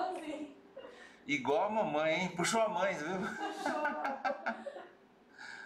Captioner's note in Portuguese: risos